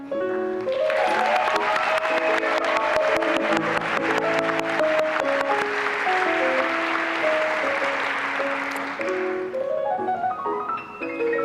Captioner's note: applause and cheering